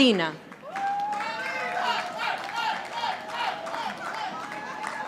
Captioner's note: audience applauding